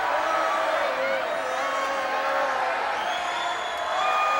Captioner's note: crowd jeering